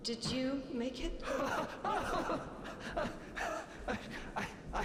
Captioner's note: Grekt laughs